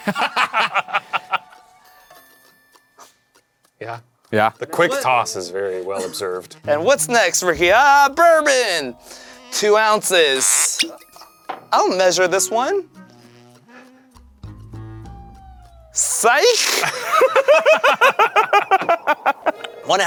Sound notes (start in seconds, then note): 0.0 laughing; 10.7 cork pops; 14.4 quirky music; 16.6 laughing